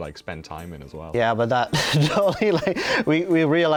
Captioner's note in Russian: смеется